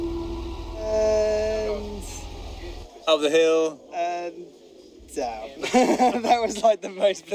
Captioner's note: laugh